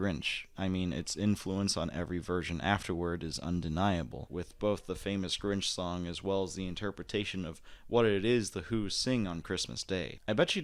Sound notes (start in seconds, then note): none